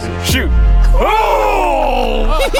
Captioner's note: all laughing; both shout